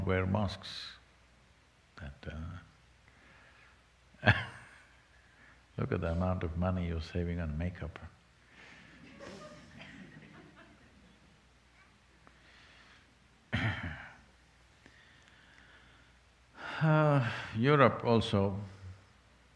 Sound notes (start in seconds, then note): 4.0 laughs; 12.2 laughter